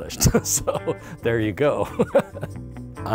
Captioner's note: laughing